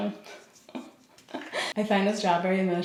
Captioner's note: laughs